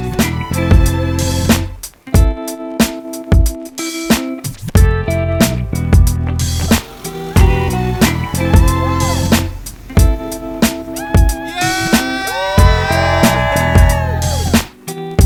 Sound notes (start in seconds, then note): 0.2 upbeat music; 8.2 cheering; 10.2 upbeat music; 13.0 cheering